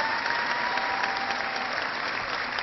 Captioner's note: cheering